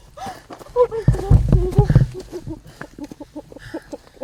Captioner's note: sollozando